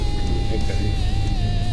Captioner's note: engine noise